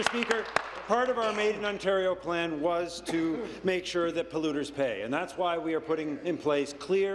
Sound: applause

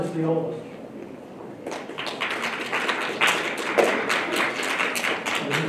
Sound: applause

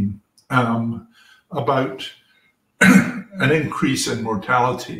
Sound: cough

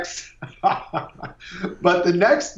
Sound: laughs

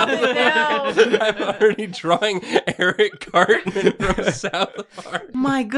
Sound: sobs

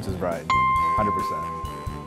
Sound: dings

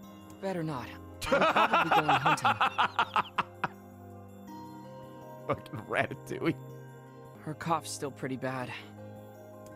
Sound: laughs

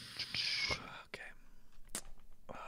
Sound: whispering

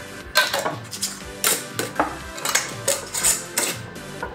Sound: lids rattle

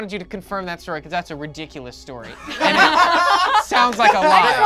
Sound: group laughs

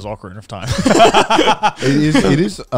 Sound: laughing

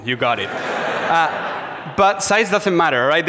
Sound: audience laughs

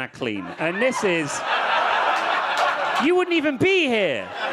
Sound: audience laughing

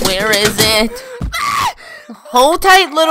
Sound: shrieks in pain

